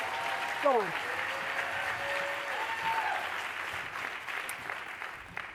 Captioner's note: applause